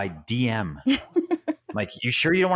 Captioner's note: laughs